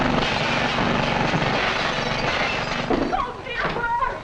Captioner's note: glass shattering